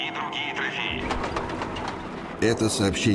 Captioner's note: sound of tank treads